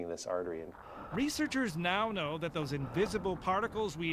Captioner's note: voiceover